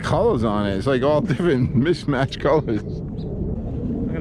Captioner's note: laughing